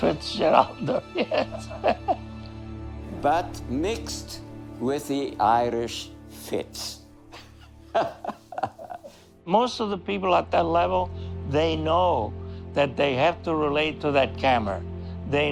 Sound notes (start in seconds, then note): 0.0 chuckling; 7.2 laughing